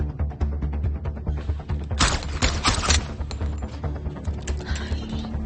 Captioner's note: gun shots firing